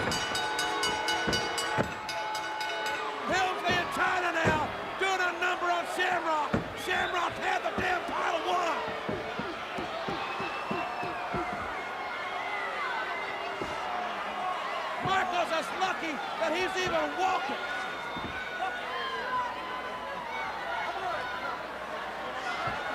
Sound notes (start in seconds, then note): 0.0 ring bell dinging; 9.1 audience indistinct yelling; 17.9 audience indistinct yelling